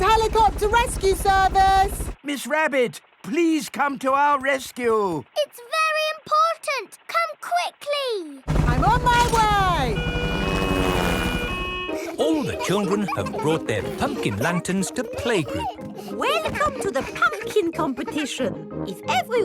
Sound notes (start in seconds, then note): 10.6 siren wailing